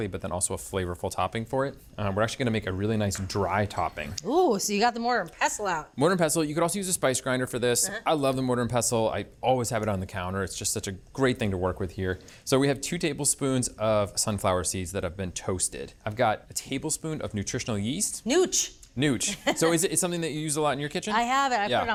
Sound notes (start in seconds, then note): 19.3 laughs